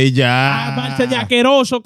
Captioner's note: speaking In Foreign Language